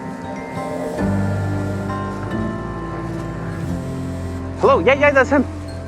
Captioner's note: phone vibrating